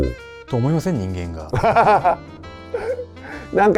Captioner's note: laughs